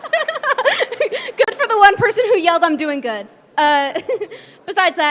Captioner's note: laughs